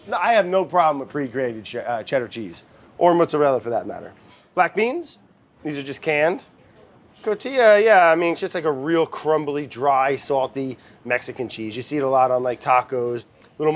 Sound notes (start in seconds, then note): none